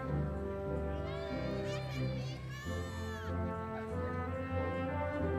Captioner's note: audience members exclaiming